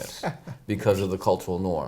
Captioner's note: laughs